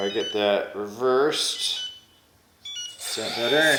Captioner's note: beeping sounds